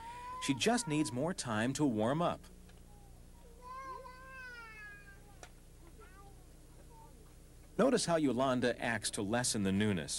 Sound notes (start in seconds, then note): 3.1 people talking